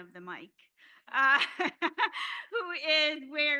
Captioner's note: laughter